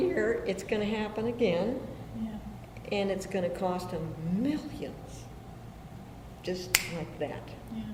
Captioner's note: snaps fingers